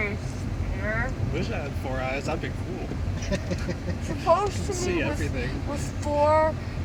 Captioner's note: laughs